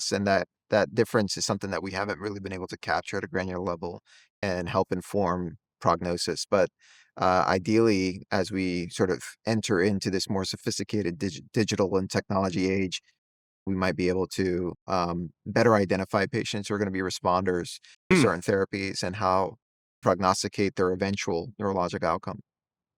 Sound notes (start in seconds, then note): 17.7 hums